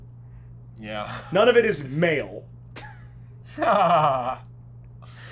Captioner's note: laughter